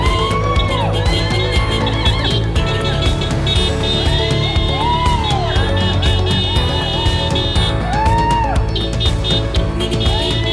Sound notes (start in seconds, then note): 1.9 crowd cheering